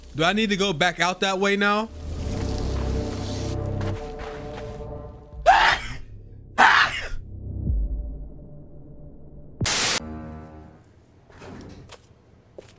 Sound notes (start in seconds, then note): 2.9 intense music; 6.6 sneezing